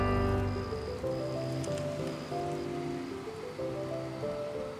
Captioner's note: music intensifies; crickets chirp